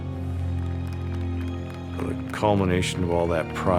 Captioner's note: applause